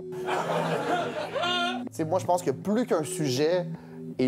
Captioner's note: laughs